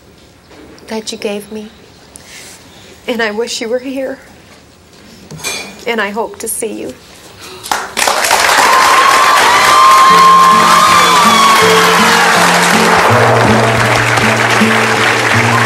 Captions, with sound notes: that you gave me. And I wish you were here. And I hope to see you. (audience claps)